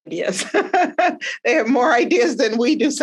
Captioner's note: laughing